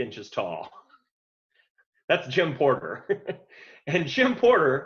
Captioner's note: laughs